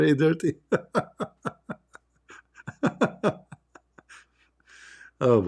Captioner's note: Ketawa